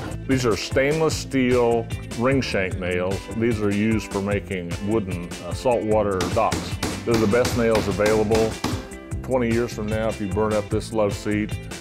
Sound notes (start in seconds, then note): 6.2 hammering